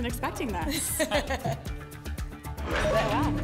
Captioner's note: laughs